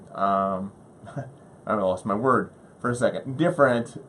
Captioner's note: laughs